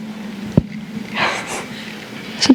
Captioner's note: laughter